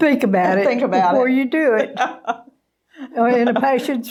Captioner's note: laughing